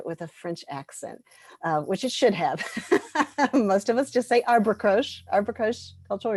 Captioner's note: laughter